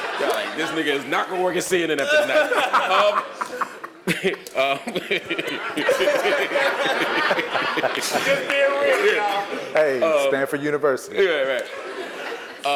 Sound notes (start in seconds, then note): 2.0 laugh